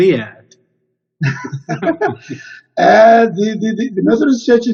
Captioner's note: chuckles